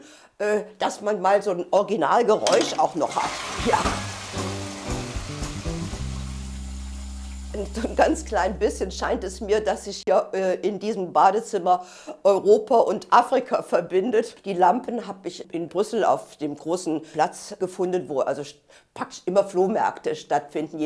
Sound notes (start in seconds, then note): 2.4 clacking, flushing